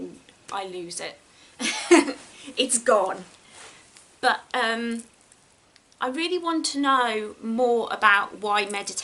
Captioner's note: giggles